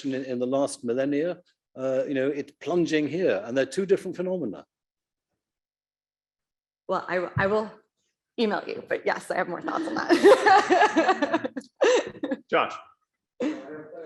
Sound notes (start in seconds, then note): 10.0 laughs